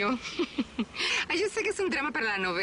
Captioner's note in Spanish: Risas